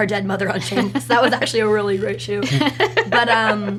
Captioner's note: laughs; laughs